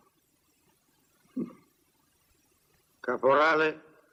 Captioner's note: chuckles